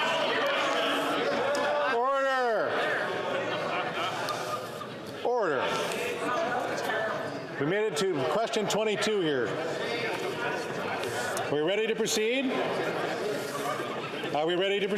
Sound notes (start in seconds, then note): 1.8 yelling